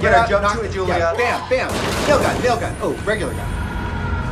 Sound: gunshots firing

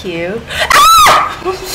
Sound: screams

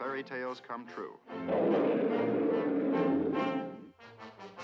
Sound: growling

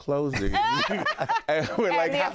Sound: laughter

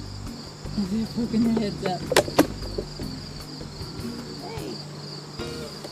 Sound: laughs

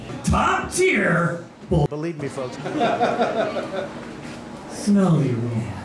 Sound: laughter

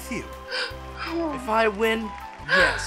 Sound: gasping

